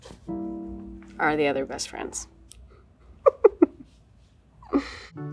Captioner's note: chuckles